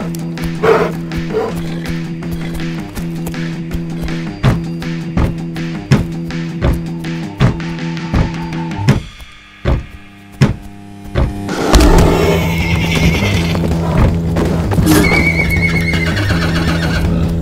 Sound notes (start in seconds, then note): 4.4 hooves hitting the ground; 11.4 bear growls; 11.7 neigh; 14.8 whinny